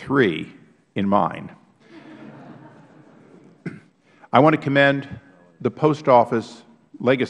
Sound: laughter

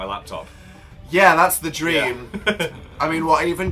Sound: laughs

